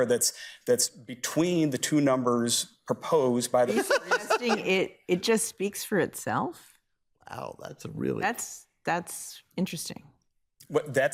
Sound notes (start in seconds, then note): 3.6 laughing